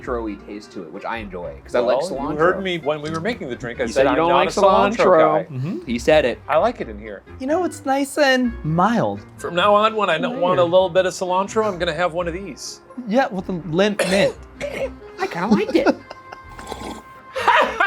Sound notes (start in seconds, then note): 13.9 coughs